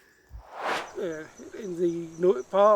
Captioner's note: air swooshes